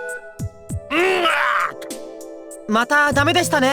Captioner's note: frustrated groan